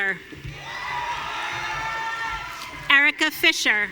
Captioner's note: audience cheering